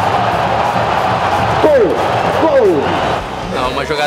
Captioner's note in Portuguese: gritos de gol; torcida comemorando